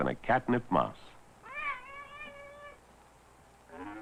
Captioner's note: intoxicated meowing